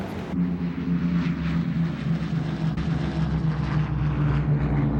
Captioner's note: airplane motor whirring